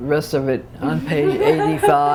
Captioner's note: laughter